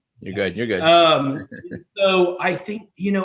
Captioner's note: laughs